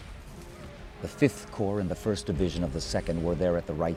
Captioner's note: voiceover